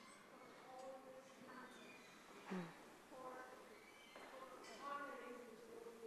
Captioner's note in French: parlant sans microphone